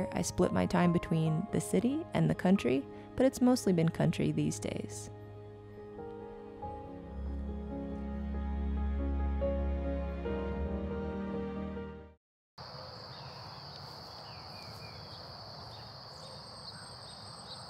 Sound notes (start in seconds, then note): 6.5 soft music; 10.1 birds chirping